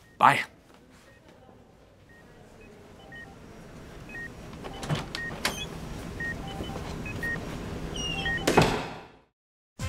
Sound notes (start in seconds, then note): 2.5 medical equipment beeping